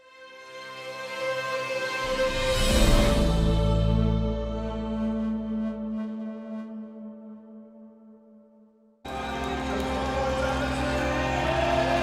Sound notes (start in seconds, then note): 9.0 cheering; 9.0 dramatic music playing